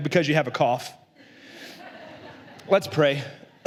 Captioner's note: la congregación se ríe